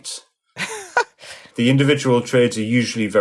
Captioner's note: laughing